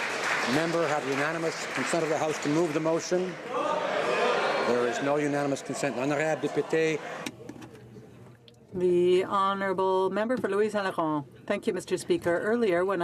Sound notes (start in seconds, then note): 3.5 some Applause